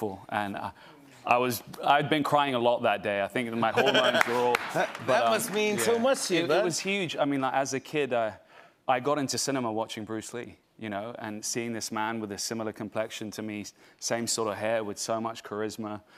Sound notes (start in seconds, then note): 3.7 laughs